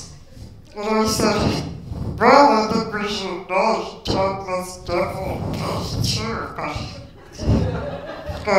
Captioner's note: laughter